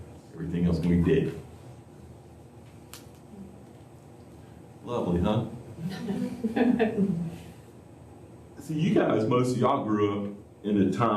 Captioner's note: laughter